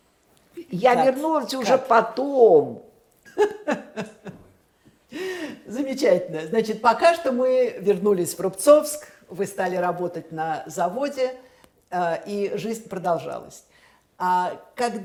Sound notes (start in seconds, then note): 3.3 laughing